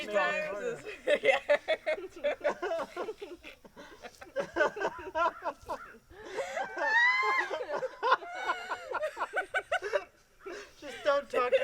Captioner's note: laughter intensifies